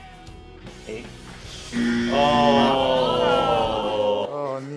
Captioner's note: buzzer; groans